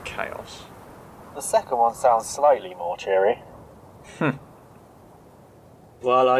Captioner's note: doctor chuckles